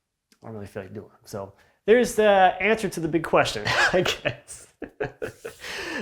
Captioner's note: laughs